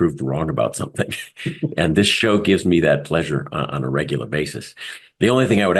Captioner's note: laugh